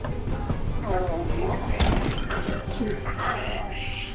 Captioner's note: music intensifies further; crack